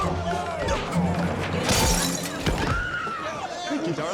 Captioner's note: bottle smashes